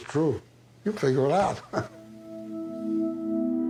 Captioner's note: chuckles; sullen music